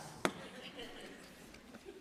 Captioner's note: audience laughing